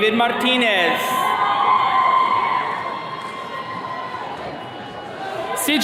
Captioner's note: attendees cheering